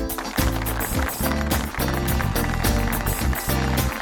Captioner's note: audience applause